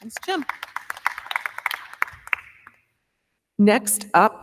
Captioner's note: crowd clapping